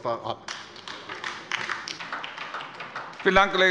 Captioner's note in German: Beifall bei der LINKEN